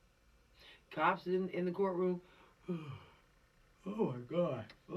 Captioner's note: yawn